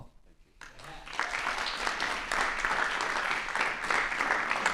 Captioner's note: applause